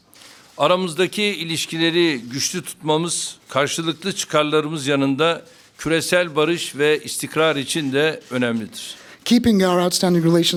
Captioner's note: speaking Turkish